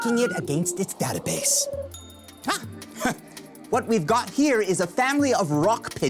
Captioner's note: pigeon cooing